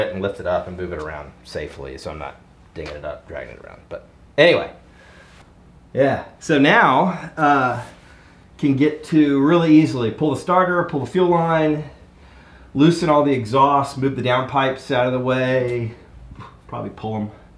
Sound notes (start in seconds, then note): none